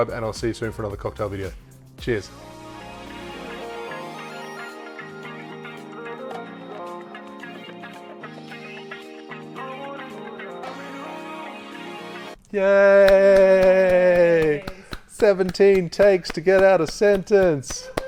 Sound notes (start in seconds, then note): 6.6 relaxed music; 13.0 clapping